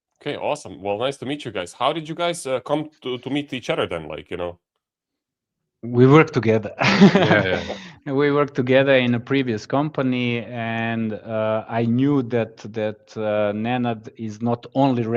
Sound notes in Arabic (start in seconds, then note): 6.9 ضحك